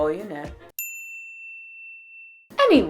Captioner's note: ding